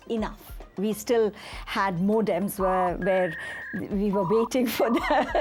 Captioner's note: dial-up squeaks and whistles